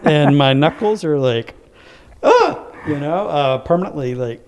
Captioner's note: laugh